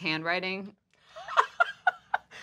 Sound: laughing

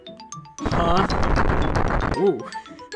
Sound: laughing; laughing

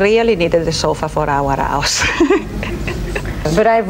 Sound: laughs

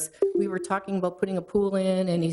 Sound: electronic chime

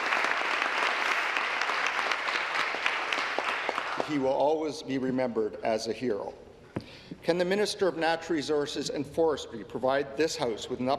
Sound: applause

